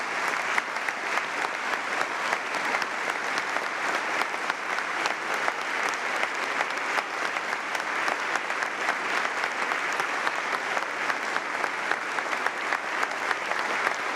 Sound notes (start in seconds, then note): 2.4 applause